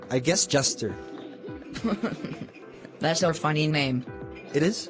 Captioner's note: giggling